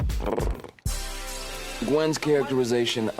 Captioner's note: rolls tongue